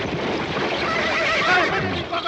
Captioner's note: horses neighing; Hop Sing speaking Chinese